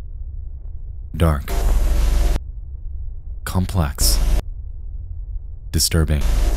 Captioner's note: distorted tones; distorted tones